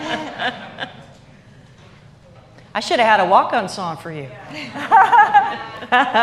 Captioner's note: laughter